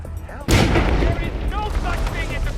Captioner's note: explosion